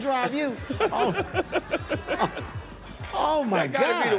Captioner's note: laughter